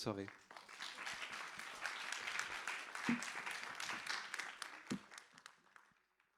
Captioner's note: applause